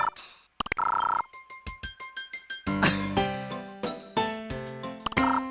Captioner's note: chuckle